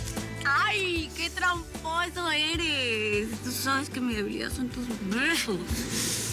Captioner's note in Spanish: murmura